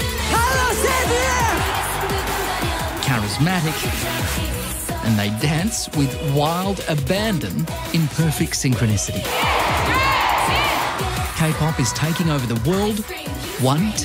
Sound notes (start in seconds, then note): 0.1 audience cheers; 9.2 people shout